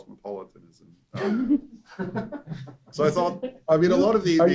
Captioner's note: laughter